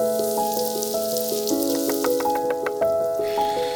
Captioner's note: food simmering; chopping